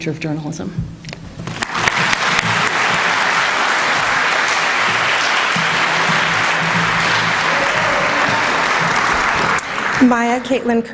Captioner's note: applause